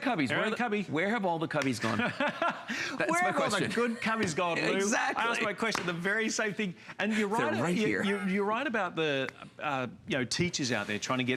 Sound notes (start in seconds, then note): 1.8 laughter; 5.2 laughter